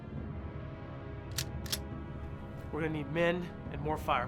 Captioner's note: gun clicks